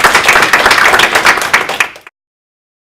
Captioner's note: applause